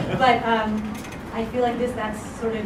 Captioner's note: laugh